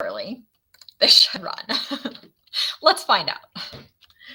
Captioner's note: laughs